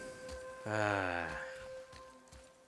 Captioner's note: le sigh